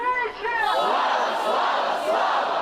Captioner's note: chanting